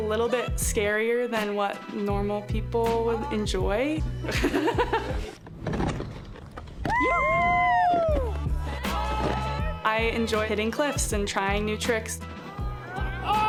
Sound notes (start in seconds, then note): 4.3 laughing; 6.5 shouting